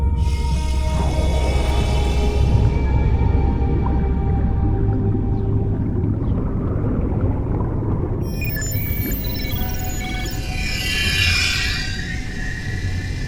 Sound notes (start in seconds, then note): 7.6 water bubbling; 8.2 system beeping